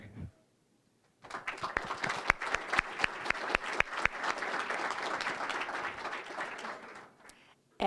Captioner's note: applause